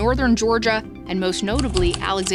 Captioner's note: keypad clacking